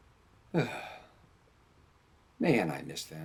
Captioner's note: sighs